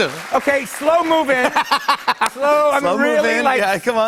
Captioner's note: laughter